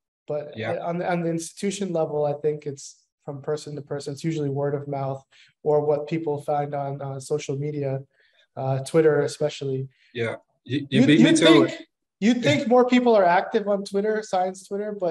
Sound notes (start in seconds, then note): 10.7 chatter